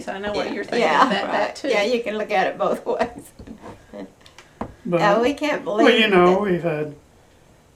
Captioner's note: laughs